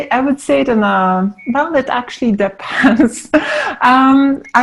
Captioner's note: laughs